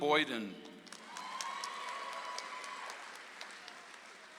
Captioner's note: audience applauds